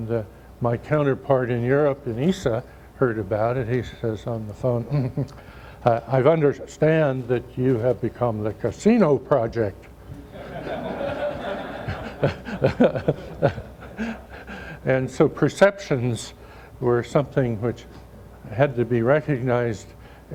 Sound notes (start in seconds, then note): 10.2 laughter; 10.2 more laughter